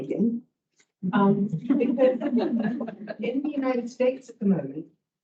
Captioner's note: all laugh